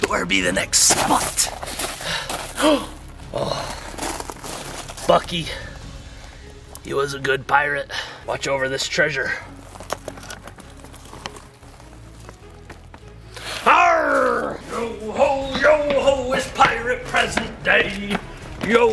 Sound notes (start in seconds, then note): 3.3 gasps